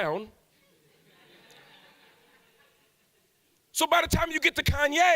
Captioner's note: audience laughs